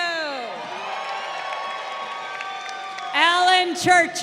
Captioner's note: crowd cheering